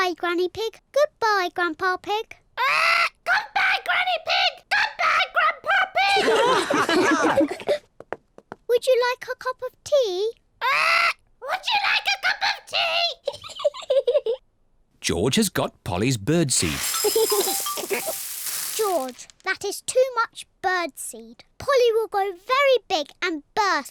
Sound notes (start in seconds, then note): 4.0 all laugh; 11.4 giggles; 15.0 giggles